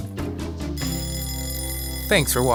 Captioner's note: alarm Clock Ringing